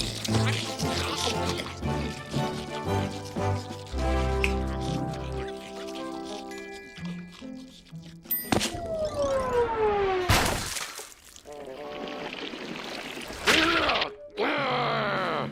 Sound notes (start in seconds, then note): 10.2 splat; 12.5 grunts; 13.6 growling